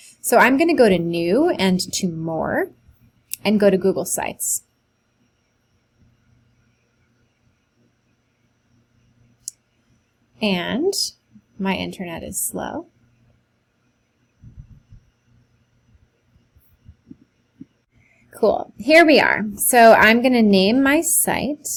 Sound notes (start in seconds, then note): 4.4 long pause